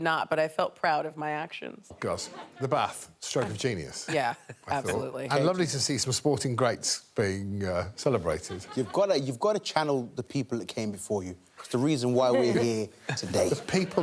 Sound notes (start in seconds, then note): 2.6 audience tittering